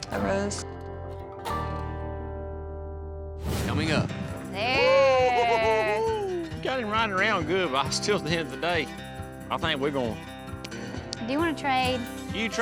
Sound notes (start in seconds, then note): 4.8 giggling